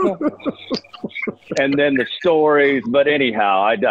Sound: laughter

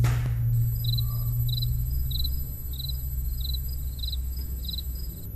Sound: crickets

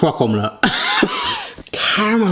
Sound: laughing

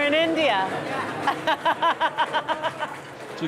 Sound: manic laughter

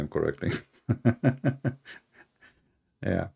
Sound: Ketawa

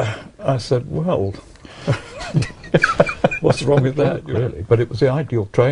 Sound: laughing

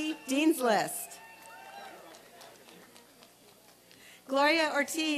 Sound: applause and cheering

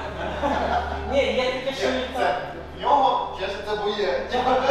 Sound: chatter

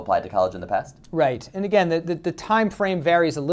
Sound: voiceover

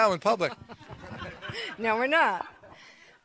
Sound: members chuckling

